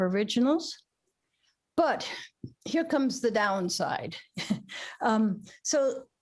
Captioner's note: laughter